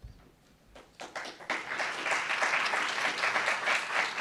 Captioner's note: applauds